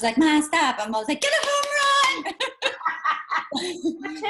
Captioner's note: laughs